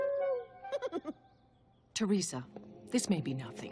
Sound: giggling

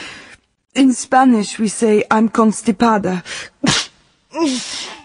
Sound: she sneezes

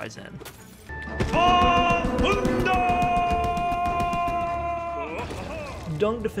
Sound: Dung Defender laughs and cheers

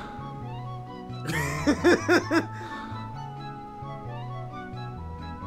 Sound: laughs

